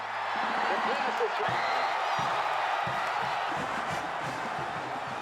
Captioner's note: crowd cheering